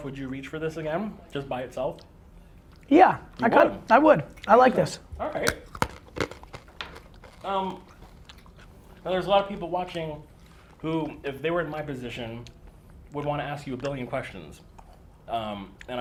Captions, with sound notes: would you reach for this again, just by itself? - Yeah, I would, I like this. (crunching) - There's a lot of people watching who if they were in my position would wanna ask you a billion questions